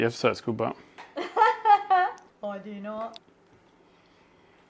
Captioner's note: laughs